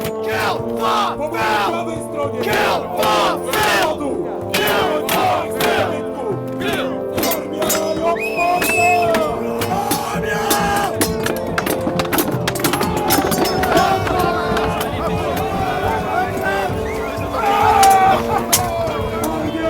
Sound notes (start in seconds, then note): 8.0 whistles; 9.9 shouts